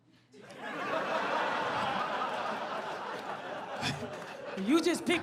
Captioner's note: audience laughs; chuckles